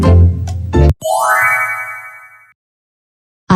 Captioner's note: FX - Chime plays